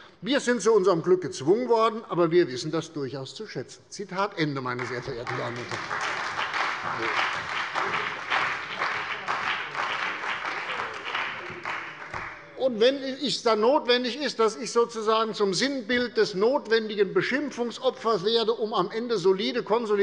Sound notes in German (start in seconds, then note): 4.7 Beifall bei der CDU und dem BÜNDNIS 90/DIE GRÜNEN